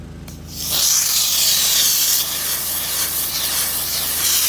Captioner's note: steamer hissing